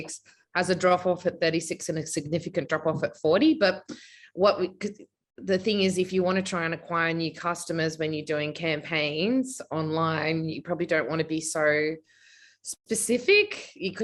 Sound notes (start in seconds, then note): none